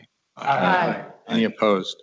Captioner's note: multiple voices